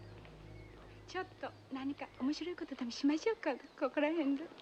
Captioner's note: speaking japanese